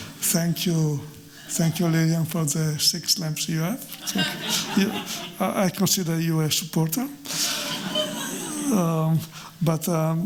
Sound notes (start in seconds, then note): 3.9 chuckling; 7.3 chuckling